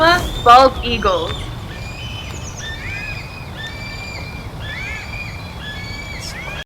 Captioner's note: eagles quacking